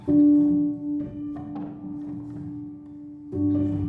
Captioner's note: none